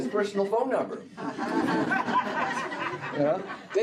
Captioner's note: laughter